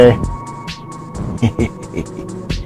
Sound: chuckles

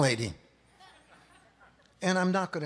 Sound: audience chuckles

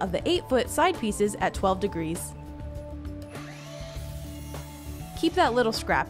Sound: circular saw whirring

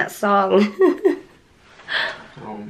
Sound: laughing

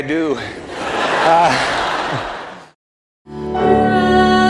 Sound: laughter

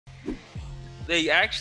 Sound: whooshing

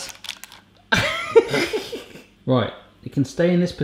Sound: laughs

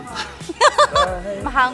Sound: laughs

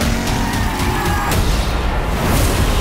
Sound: tires squealing

